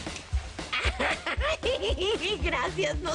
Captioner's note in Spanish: Risas